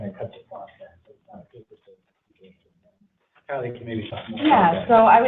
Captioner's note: whispering